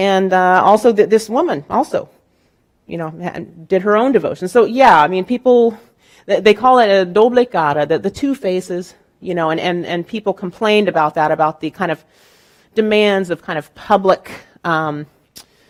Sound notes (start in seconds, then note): 6.9 speaking in Spanish